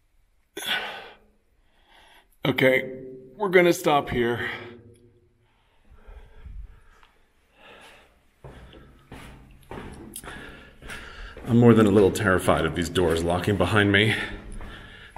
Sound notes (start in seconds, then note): 0.6 with a sigh; 5.3 brisk footsteps